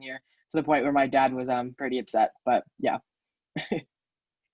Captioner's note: laughs